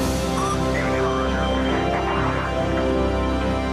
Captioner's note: indistinct chatter